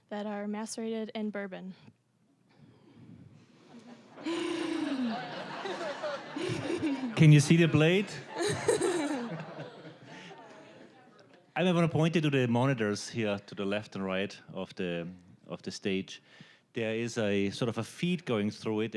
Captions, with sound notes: that are macerated in bourbon. (audience laughing) >> (with Austrian accent) Can you see the plate? (audience laughing) I never pointed to the monitors here to the left and right of the stage. There is sort of a feed going through it,